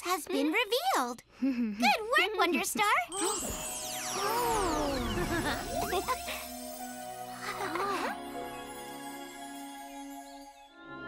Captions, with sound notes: has been revealed. -[chuckles] -Good work, Wonderstar! [gasps] Oh! [Hogi chuckles] [chuckles]